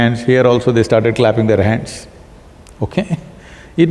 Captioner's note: laughs